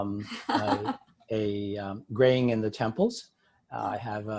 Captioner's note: laughs